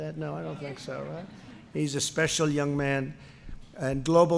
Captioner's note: laughter